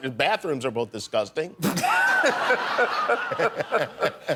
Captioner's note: laughter